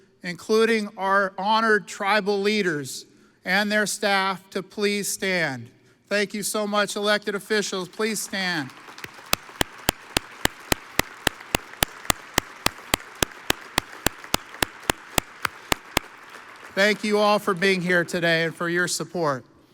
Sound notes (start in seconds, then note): 8.6 audience applauds